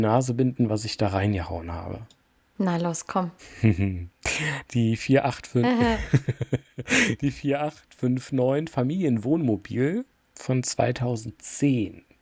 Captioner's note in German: gelächter